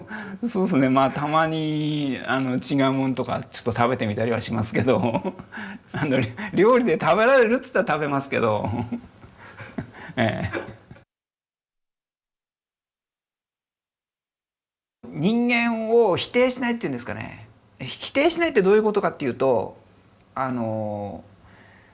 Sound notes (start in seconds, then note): 8.6 laughs